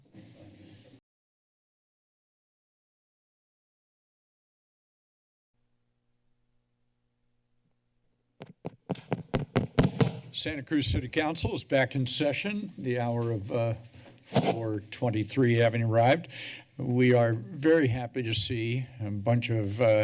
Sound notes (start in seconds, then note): 1.0 silence; 8.4 microphone tapping